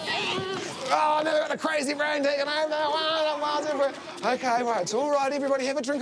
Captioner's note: kids laugh